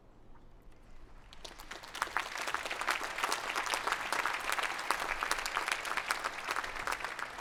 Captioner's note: applause